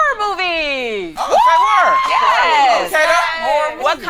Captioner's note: group cheering